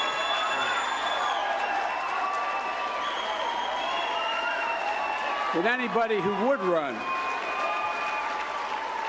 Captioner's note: cheering and applause